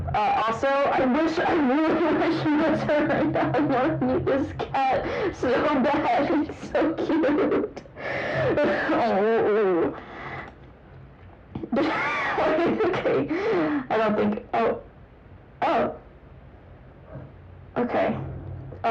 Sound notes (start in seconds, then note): 7.8 noises of dispair; 11.6 laughter